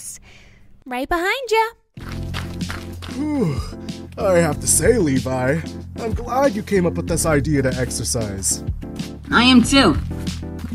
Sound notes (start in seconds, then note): 3.0 yawn; 4.2 dirt footsteps